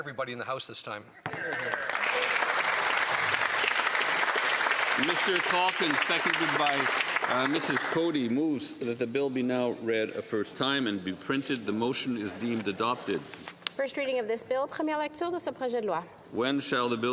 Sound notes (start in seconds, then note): 8.6 applause